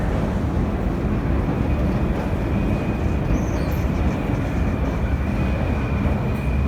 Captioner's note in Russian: прибытие поезда на станцию